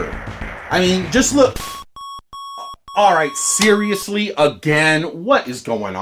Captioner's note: annoying beeps become more frequent